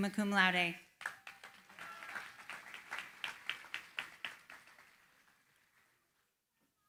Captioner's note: applause